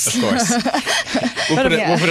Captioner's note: laughter